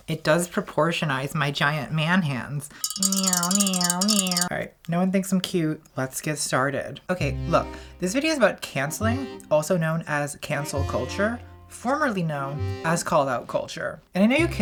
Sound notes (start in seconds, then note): 2.8 tapping